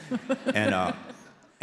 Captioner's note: audience laughs